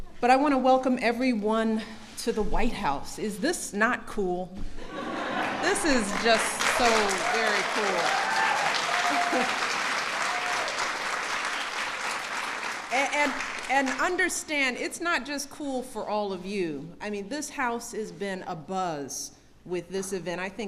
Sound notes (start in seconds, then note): 4.9 laughter and applause